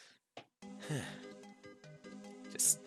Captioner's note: sigh